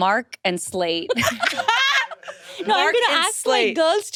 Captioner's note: laughing